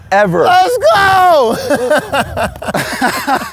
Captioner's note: laughs